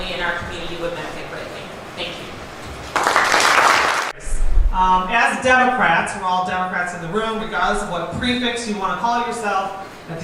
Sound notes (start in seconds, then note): 2.8 applause